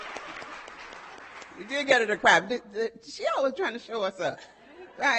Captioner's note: audience applauding